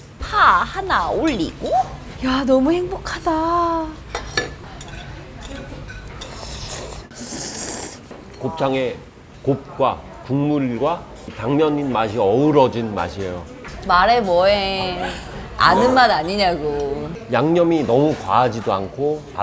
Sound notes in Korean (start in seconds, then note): 6.2 후루룩